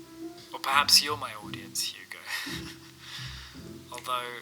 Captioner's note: laughs